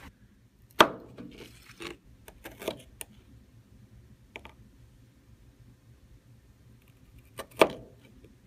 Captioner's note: chopping sound